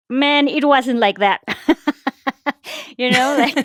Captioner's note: laughs